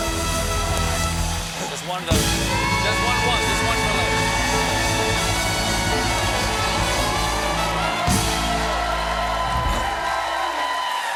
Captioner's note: cheers and applause